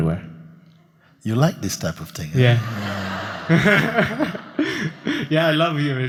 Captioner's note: laughter